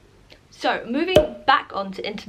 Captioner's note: pop